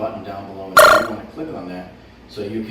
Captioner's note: button chiming